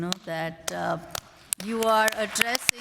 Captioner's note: applause